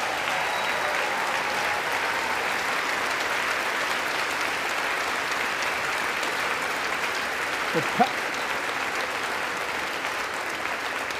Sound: applause

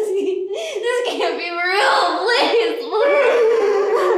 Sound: sobbing, pleading, mumbled words; sobbing

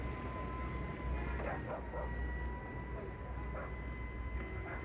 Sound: dog barking

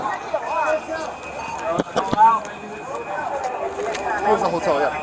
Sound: background talking

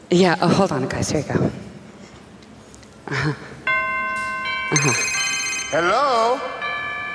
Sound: ringing

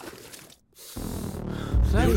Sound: sniffs

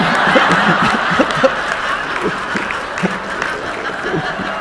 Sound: audience laughing

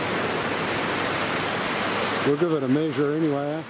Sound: waves crashing

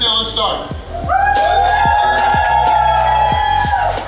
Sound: crowd cheers

